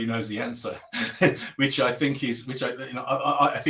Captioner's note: laughing